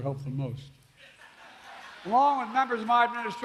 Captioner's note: laughter